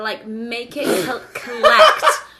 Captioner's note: laughing